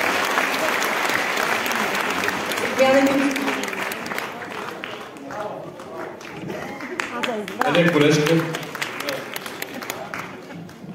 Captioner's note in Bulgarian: аплодисменти